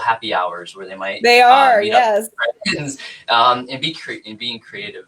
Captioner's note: laughs